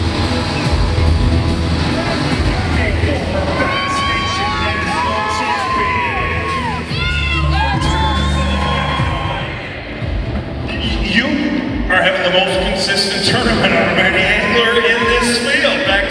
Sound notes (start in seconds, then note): 4.7 crowd cheering drowns out announcer